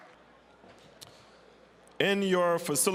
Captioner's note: general chatter